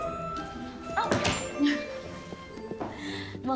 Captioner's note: door closes